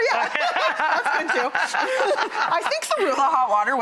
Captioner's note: laughing